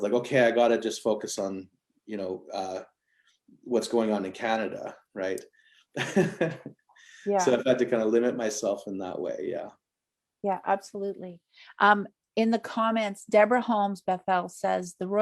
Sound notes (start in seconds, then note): 6.0 chuckles